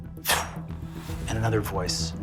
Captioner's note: imitates air whooshing